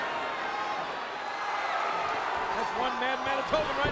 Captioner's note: crowd chattering